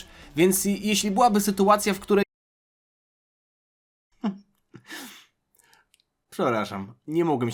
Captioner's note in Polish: śmiech